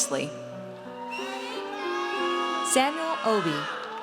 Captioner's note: audience cheers